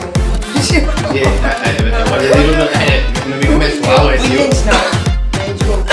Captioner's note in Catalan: riure